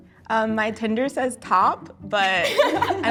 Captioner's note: laughs